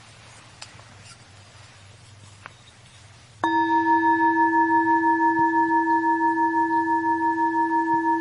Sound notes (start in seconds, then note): 3.4 bell chiming